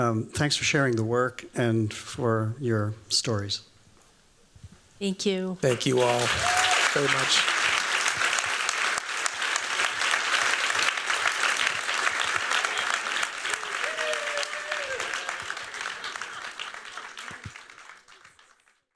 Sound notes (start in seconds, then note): 7.4 applause